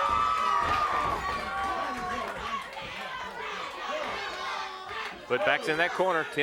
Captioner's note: crowd cheering